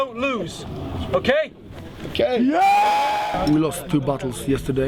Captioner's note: cheering